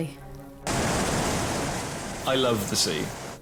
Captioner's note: boat droning; waves crashing